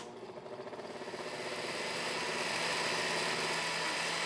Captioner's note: whirring